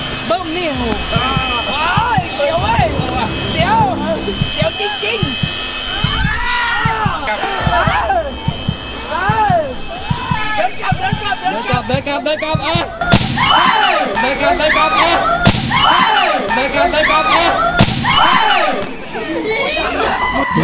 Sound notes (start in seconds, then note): 0.8 wind flowing; 2.9 screams; 5.6 wind flowing; 6.2 screams; 7.9 yelling; 13.3 screams